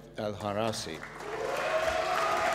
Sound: applause

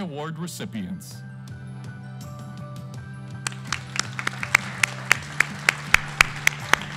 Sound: lively music; everybody clapping

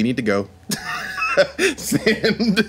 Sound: laughing

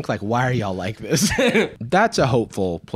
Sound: laughs

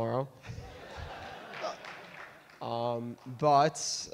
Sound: audience laugh

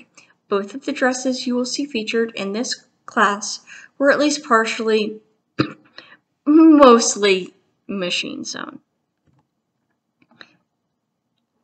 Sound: coughs

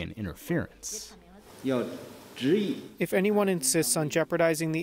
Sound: through translator

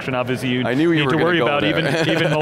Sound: laughs

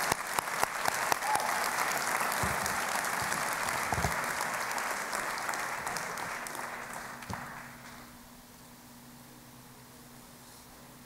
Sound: applause

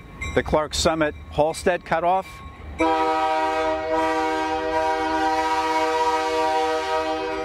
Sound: train horn...and bell

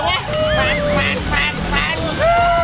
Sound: imitating bike's engine

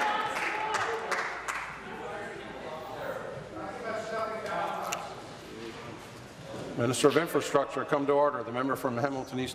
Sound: applause

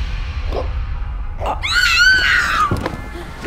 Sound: gasping for air; scream

